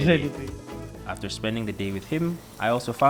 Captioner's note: voiceover